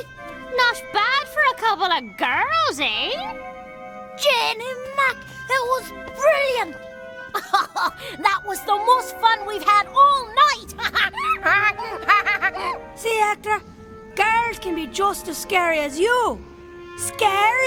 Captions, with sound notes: - Not bad for a couple of girls, eh? - Janey Mack, it was brilliant! - That was the most fun we've had all night. (laughing) - See, Hector, girls can be just as scary as you. Scarier, even.